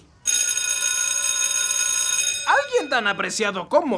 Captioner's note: ringing